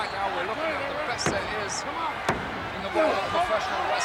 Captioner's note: hands thudding